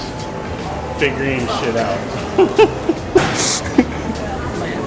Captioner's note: laughs